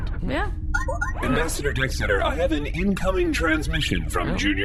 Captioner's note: beeps and boops of an incoming transmission